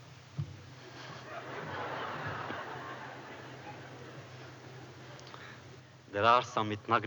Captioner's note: laughter